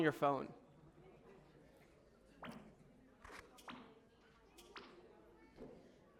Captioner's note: background chatter